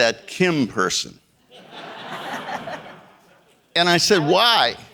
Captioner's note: audience laughing